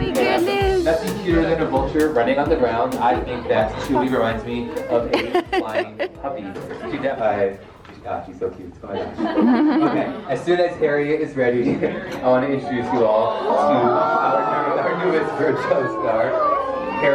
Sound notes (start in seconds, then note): 8.8 crowd laughs